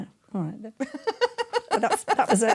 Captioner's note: laughing